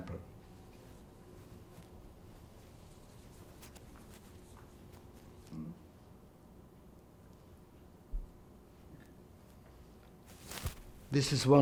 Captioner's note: pauses 10 seconds